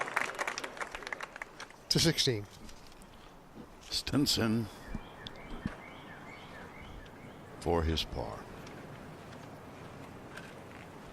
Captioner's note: applause